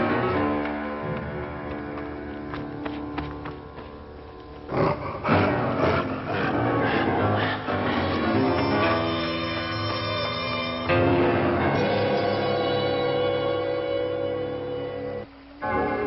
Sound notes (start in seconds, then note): 4.7 werewolf panting